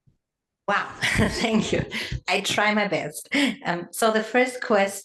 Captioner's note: laugh